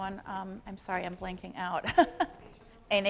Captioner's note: laughs